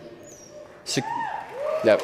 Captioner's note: crowd cheering